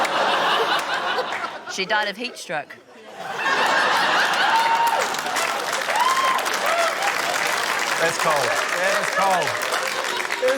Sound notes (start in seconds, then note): 0.0 laughter; 3.1 laughter, applause